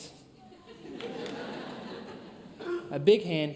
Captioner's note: audience laughs